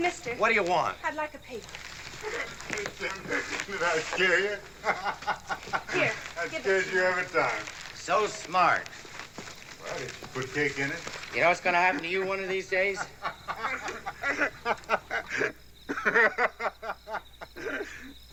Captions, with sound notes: - Mister. - What do you want? I'd like a paper. [chuckling] Did I scare ya? [laughs] Here. Give it to me. So smart. Well, did she put cake in it? You know what's gonna happen to you one of these days? [laughter]